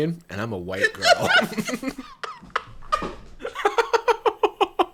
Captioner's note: laughing